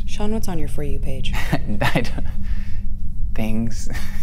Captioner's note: laughs